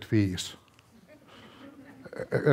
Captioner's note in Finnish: naurua yleisöstä